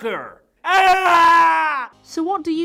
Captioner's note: scream